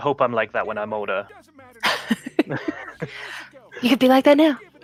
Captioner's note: laughter